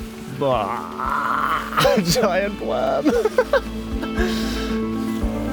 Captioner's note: laughs; gentle stirring music